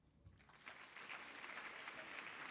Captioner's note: applause